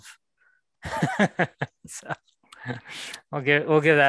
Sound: laughter

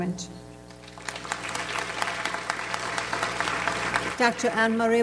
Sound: audience applauds

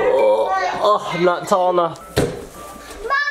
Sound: groans; chair thumps

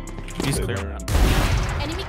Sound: gun bangs

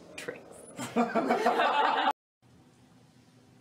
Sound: laughing

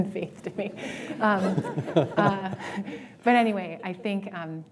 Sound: laughter

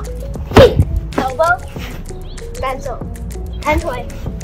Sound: slap

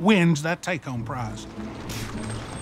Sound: scoffs

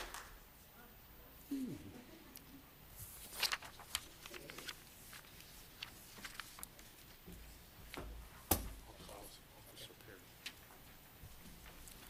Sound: applause

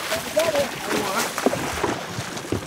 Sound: fish splashing

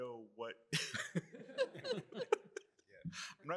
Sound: laughter

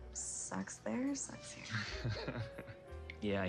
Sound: laughs

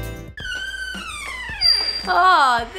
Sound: door squeaking

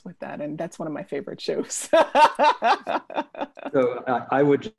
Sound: laughs

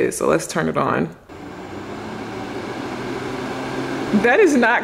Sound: dryer roaring

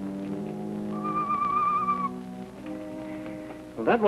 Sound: bird calling

